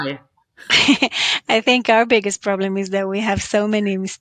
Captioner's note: laughs